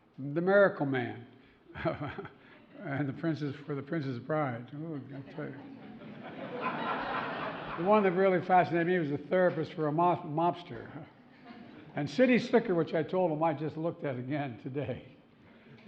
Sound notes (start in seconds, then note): 1.7 laughs; 5.6 laughter